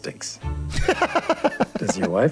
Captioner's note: laughs